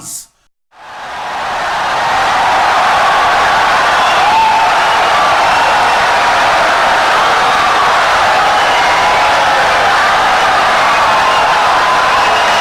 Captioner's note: wild applause and cheering for 17 seconds